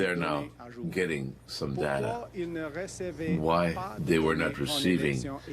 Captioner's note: speaking French